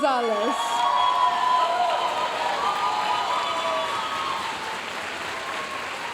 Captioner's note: audience cheering and applauding